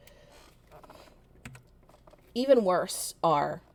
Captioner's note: keyboard clicks